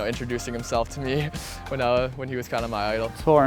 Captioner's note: chuckling